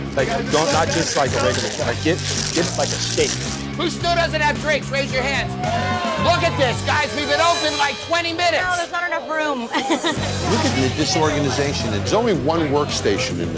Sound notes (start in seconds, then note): 5.2 shouting; 9.5 laughs